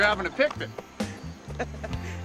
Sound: laughing

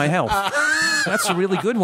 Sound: laughter

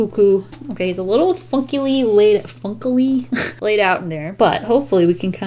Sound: chortle

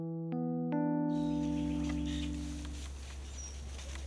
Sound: animals running

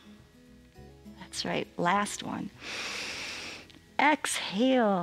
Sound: exhales; inhales

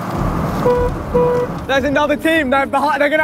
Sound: car horn honking

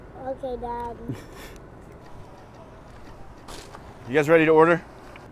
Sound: James chuckles

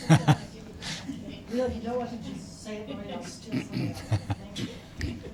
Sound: laughter

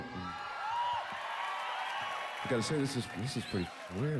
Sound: cheers and applause

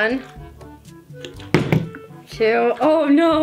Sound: bottle landing

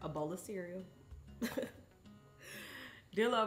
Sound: peaceful music continues; chuckles

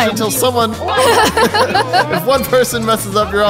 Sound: laughs

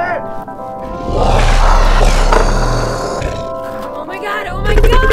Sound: snarling and growling

